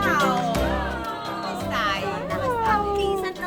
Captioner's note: lively Italian music; speaking Italian